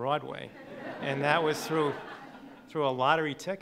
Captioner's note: laughing